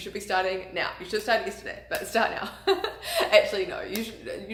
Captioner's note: laughs